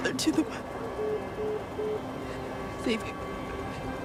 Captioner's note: phone beeping